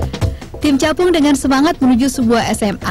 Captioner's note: non-english speech